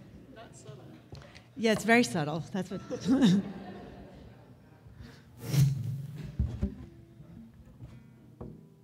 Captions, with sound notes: Yeah it's very subtle (laughs)